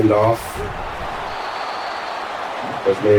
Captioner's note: crowd Noises